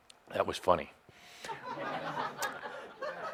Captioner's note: some laughter